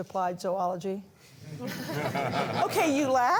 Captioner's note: laughter